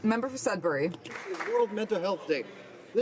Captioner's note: some Applause